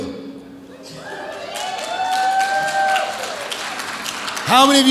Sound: audience applauds

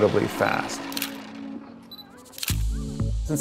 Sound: camera shutter

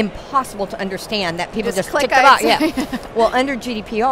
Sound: laughs

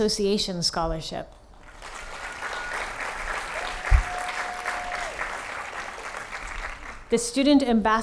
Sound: applause

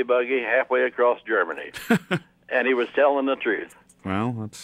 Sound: laughs

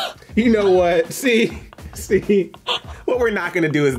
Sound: laughing

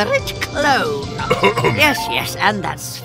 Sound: throat clearing

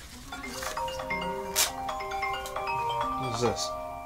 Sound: phone ringing

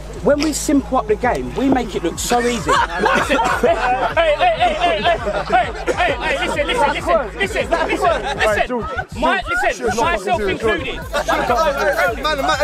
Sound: laughing

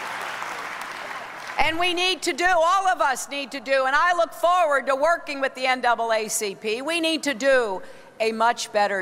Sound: applause

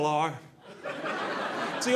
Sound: audience laughing

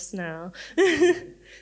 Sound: laughs

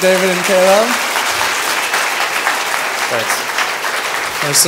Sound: applause

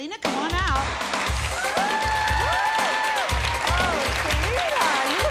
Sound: crowd yells and applauds

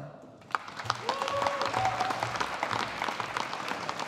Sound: audience applauding

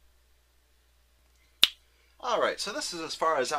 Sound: snaps

